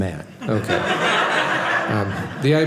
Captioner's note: audience laughing